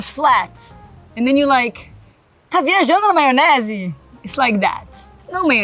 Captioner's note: speaks Portuguese